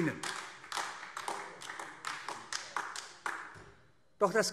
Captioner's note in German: Beifall AfD